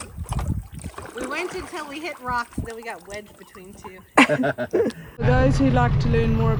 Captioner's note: lauging